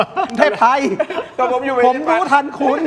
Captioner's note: laughter